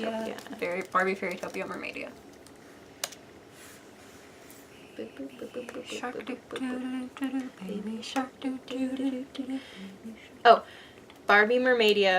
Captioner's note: laptop typing